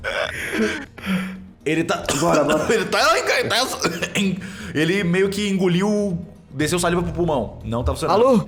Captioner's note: cough